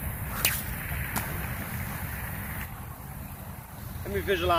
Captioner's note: sling whips; loud splash